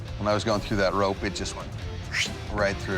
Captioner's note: imitates swishing